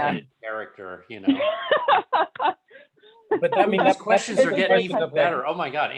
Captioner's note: laughter